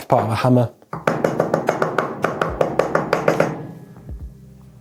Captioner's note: hammer banging